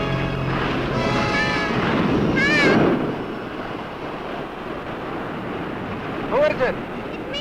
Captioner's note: waves roaring